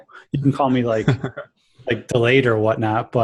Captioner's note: laughs